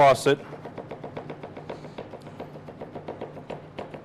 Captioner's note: knife thudding